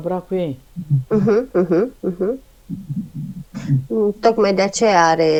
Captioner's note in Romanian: voce dreasă